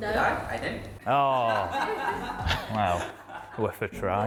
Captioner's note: laughing